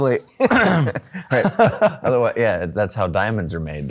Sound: laughing

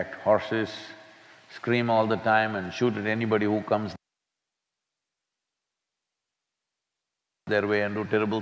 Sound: audio cut

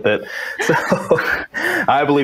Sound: all laugh

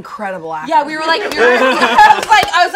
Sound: group laughs

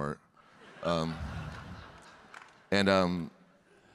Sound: audience laughing

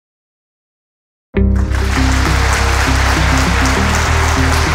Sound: audience applauding

